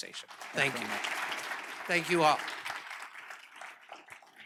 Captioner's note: applause